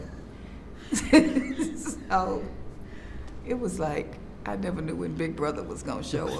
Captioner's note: laughs